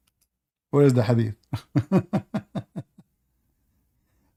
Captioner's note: Ketawa